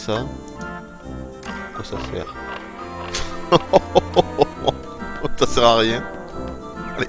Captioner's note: laughs